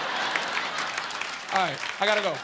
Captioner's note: audience laughing